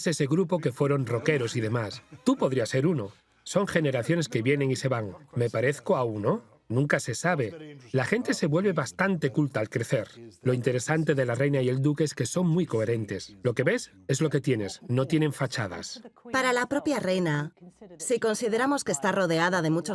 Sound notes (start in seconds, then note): 2.0 voiceover; 3.3 laughing